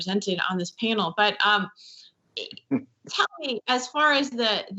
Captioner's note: chuckles